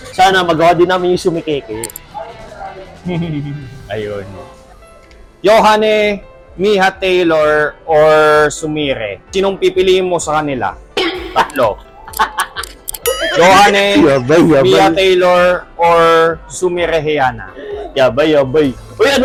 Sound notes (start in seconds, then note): 11.2 laughs